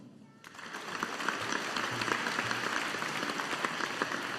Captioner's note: audience applauding